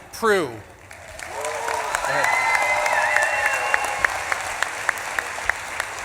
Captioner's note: audience claps and cheers